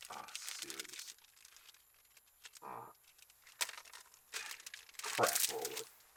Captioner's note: none